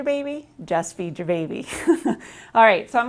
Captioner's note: chuckles